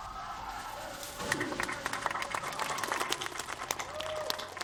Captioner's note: applause